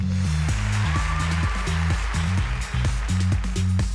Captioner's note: cheering and applause